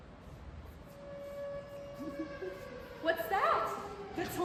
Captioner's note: tornado siren